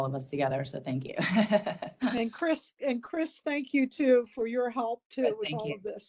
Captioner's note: laugh